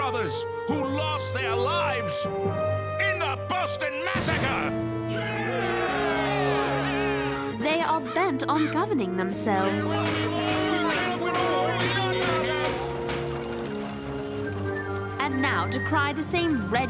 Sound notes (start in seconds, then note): 5.7 yelling; 10.8 angry yelling